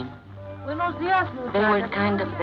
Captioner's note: woman speaks Spanish